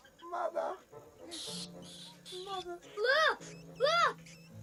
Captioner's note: squeaking